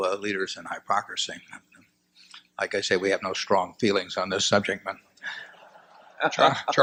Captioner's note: laughter